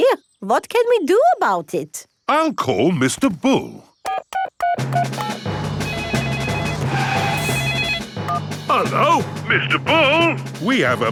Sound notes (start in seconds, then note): 4.0 beeping; 6.1 phone ringing